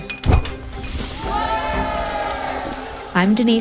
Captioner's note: people cheering